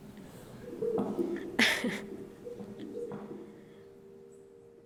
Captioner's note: laughs